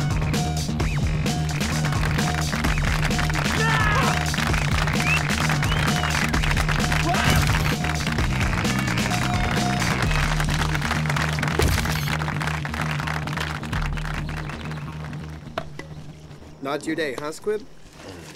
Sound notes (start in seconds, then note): 0.2 people clapping; 0.2 upbeat music; 2.3 people whistling; 8.3 people clapping